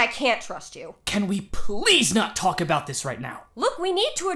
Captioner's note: exasperated